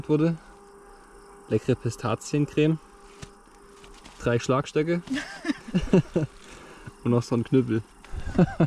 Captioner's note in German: Gelächter